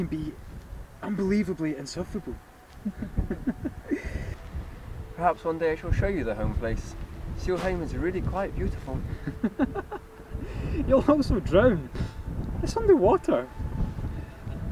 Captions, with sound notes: they can be unbelievably insufferable. *laughing* Perhaps one day, I shall show you the Home-Place. Seal-Hame is really quite beautiful. *laughter* You'll also drown! It's underwater.